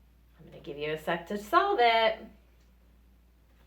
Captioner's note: none